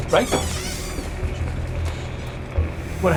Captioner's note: squeak